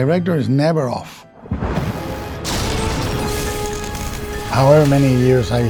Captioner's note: dramatic music; electricity zapping